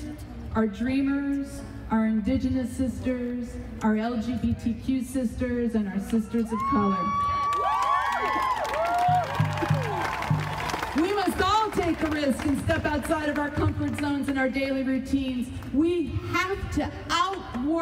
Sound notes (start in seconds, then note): 7.1 audience cheering